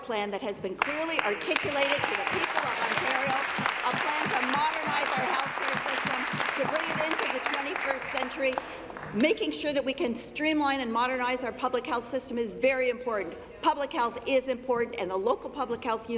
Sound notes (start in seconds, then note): 6.2 applause